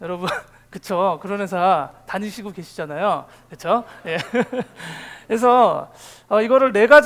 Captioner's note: laugh